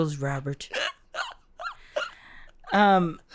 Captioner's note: squeaky giggle